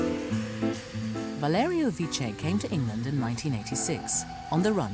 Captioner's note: jazzy music; voiceover